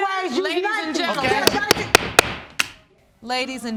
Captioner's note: banging gavel